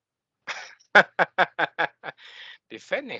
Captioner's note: laughing